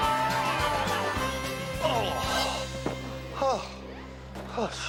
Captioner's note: gemidos